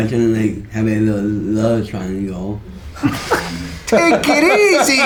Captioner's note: laughter